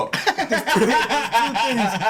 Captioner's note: laughing